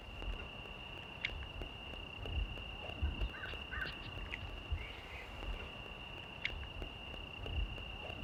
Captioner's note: crickets and birds